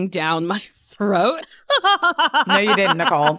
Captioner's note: laughter